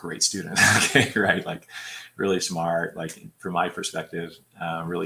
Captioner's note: laughter